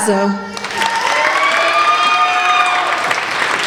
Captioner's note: applauding